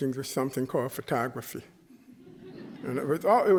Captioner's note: chuckling